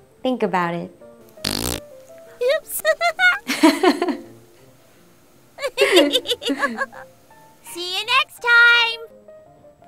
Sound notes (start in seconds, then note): 2.6 both laugh